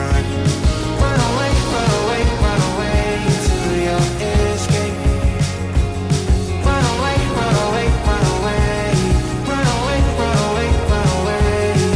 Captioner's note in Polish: Aplauz